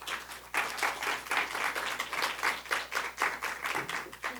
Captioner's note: audience applauding